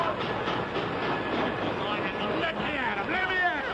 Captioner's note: train bell clangs; shouting